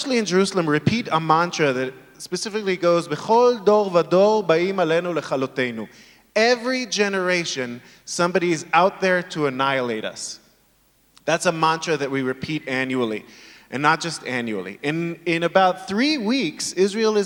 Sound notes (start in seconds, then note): 3.6 speaking in foreign language